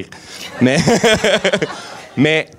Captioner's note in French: rires